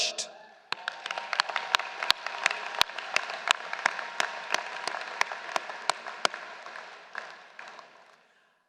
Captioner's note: applause